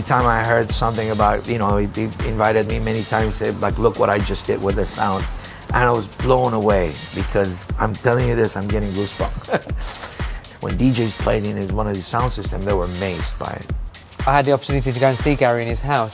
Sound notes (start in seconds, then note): 9.0 chuckles